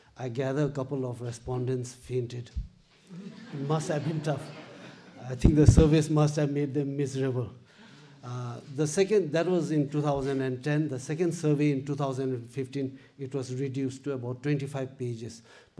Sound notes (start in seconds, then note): 3.1 audience laughs